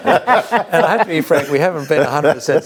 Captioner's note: both laughs